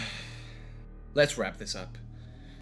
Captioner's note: sigh